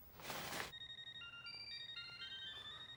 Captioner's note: phone ringing